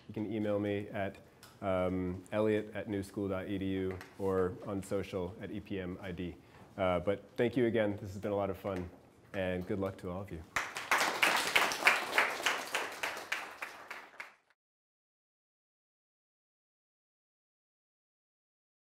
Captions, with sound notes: You can email me at elliot@newschool.edu or on social at EPMID. But thank you, again. This has been a lot of fun. And good luck to all of you. (class applauding)